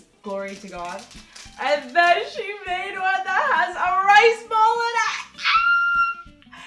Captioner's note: screams